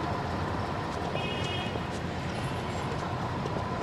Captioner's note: city noise